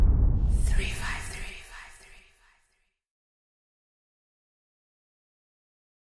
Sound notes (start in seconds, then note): 0.0 echo; 1.9 whispering